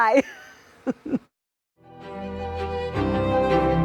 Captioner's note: laughs